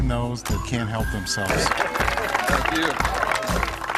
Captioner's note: applause